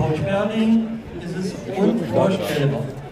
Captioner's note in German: Leise Gesprächsfetzen